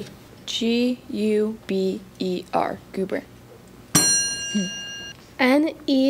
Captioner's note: ding